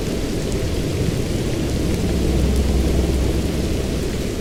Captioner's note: atmospheric music; distant deep humming